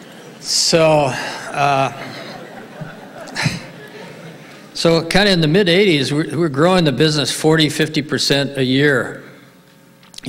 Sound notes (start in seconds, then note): 1.1 laughs